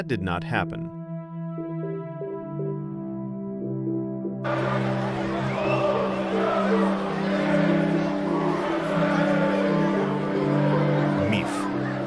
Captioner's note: болельщики скандируют